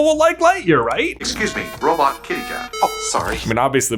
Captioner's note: computer Voice